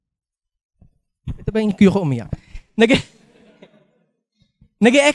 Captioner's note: chuckles